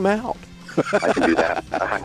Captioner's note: laughing